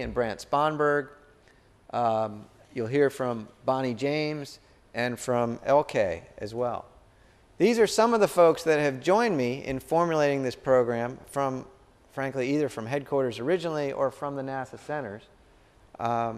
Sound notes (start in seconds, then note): none